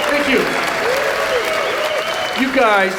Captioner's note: audience cheering